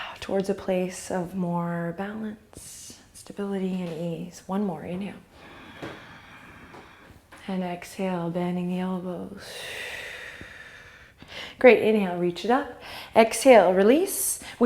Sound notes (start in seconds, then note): 5.3 inhale; 9.4 exhale